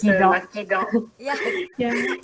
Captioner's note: laugh